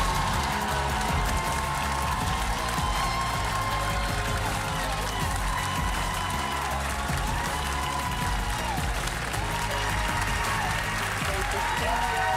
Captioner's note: applause